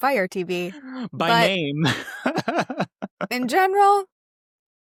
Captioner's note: laughing